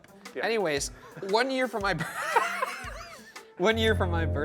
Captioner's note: laughs